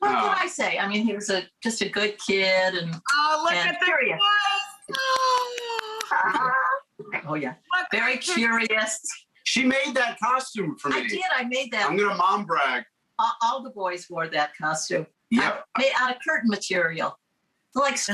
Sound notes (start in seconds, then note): 4.9 claps